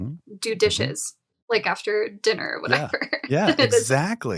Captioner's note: chuckles; chuckling